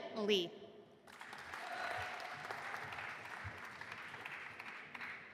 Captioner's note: audience applauding